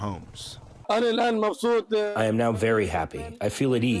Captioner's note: through translator